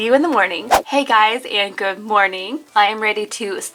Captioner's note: air whooshing